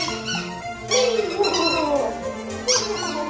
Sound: squeaks chicken

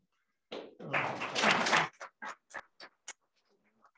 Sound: applause

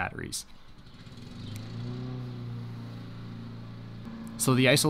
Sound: lawn mower starts

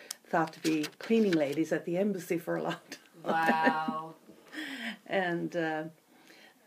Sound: laughs

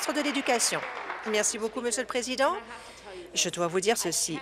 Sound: applause

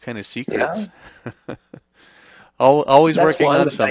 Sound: laughs

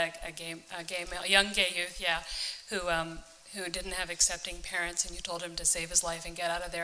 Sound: none

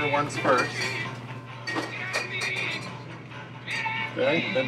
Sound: bottles Clinking

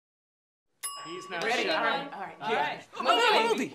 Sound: all clamoring

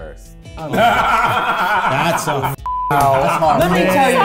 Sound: cackling

